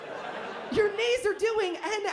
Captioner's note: laughter